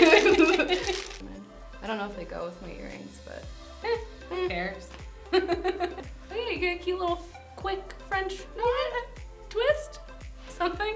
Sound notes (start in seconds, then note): 0.0 both laugh; 4.8 laughs